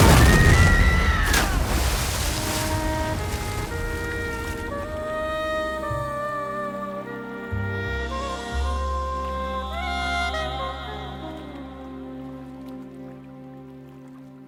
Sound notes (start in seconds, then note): 0.0 explosion; 4.9 screams; 7.6 dramatic music